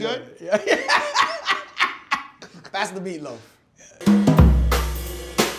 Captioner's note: laughs; upbeat jazz music